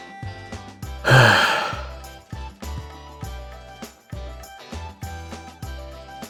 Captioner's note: sigh